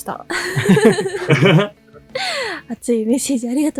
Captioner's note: laughs